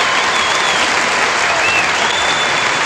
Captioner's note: applause